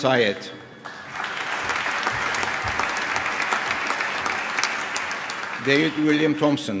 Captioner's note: applause